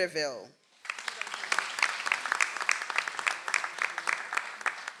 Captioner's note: audience applauds